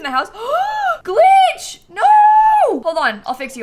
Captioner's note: gasps